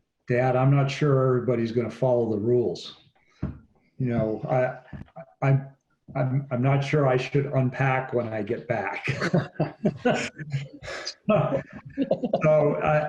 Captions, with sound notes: "Dad, I'm not sure everybody is gonna follow the rules. I'm not sure I should unpack when I get back." (all laughing)